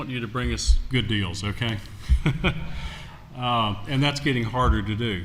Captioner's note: laughter